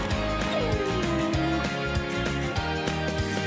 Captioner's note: pug whines